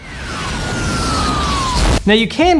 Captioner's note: explosion